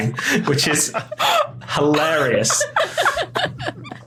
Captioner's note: others laughing